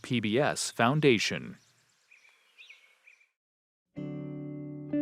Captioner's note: birds chirping